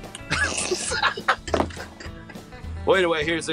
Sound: laughing

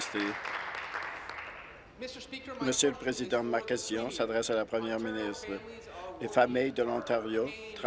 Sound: applause

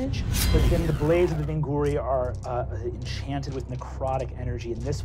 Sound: slicing

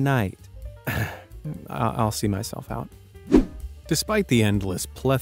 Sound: chuckles

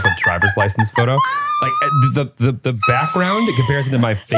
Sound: laughing

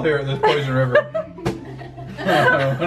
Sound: laughs

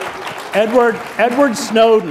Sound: applause

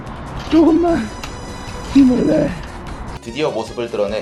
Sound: crying

